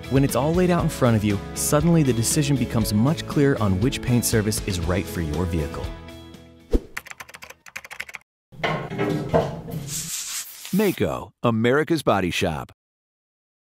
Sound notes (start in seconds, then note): 6.9 typing; 8.7 banging noice, spray paint